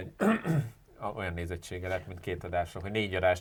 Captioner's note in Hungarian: köhögés